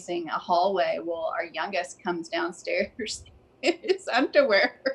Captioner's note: laughs